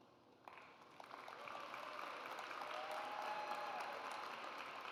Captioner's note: audience applauds